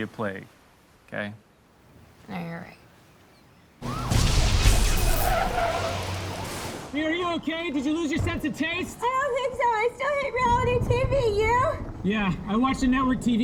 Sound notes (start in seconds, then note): 3.8 siren wailing; 3.9 explosions